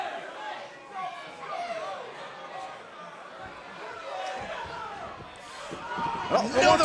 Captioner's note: crowd cheering